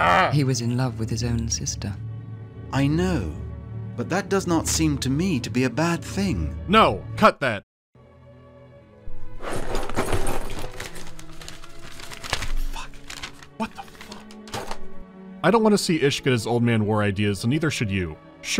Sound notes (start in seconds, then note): 9.3 hectic flipping of pages in heavy armor